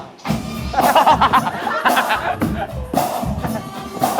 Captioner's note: laughing